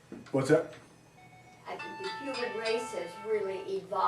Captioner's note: phone powering down